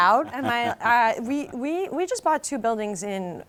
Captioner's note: chuckles